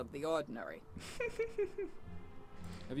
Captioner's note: chuckles